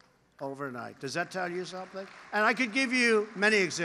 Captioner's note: applause